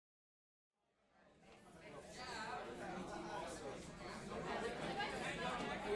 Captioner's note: cafeteria chatter